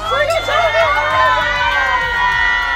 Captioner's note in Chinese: 全體歡呼